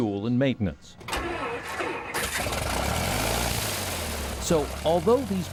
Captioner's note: engine starting